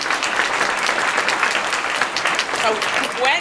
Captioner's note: applause